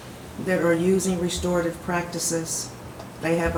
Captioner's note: none